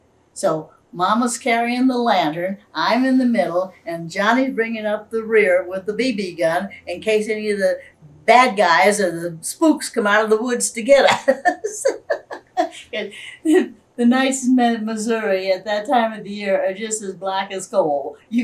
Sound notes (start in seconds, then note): 11.0 laughs